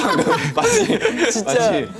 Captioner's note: haha